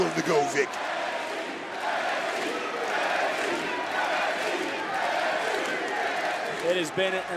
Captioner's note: crowd chants "nxt"